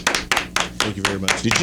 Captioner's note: applause